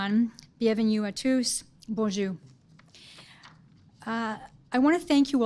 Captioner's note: speaking foreign language